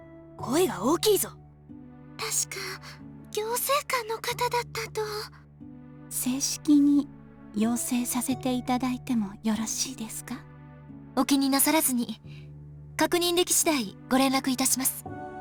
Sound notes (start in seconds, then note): 0.6 whisper; 2.6 whisper